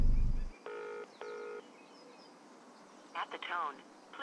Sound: phone ringing

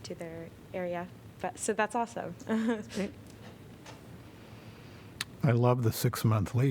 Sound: laughter

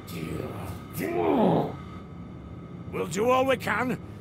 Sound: angry grunt

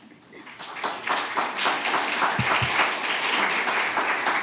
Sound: audience applauds

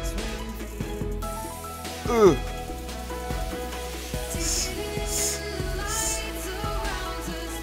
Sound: laugh

